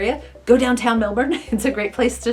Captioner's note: laughs lightly